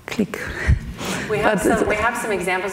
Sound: laughs

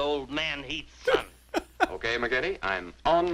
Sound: laughs

